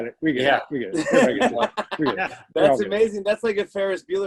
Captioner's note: laughter